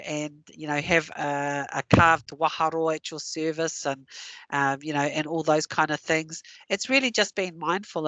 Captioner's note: non-english